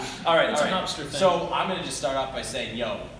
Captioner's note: laugh